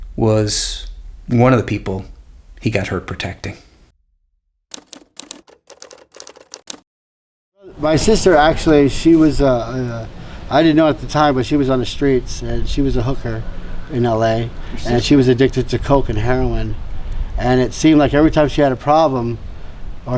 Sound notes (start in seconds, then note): 4.7 typewriter typing